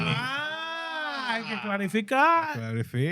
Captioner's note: speaking In Foreign Language